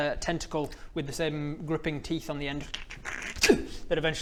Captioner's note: shlrrup; sllrrppp-uhg